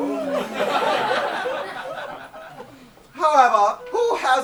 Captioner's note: audience laughs